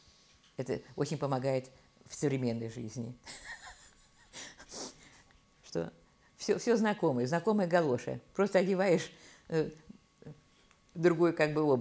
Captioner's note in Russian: смеется